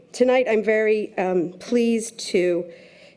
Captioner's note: none